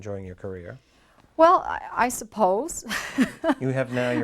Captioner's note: chuckles